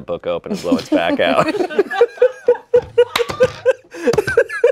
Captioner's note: everyone laughs